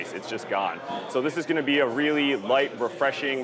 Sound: none

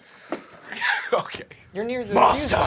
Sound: laughs

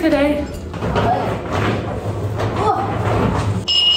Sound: loud rummages

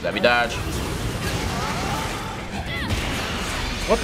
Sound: Bayonetta grunts

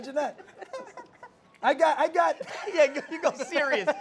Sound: laughs

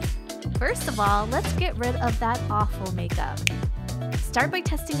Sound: snap

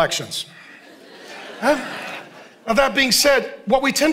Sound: congregation laughing

